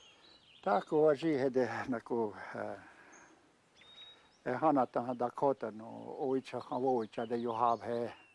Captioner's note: speaking Dakota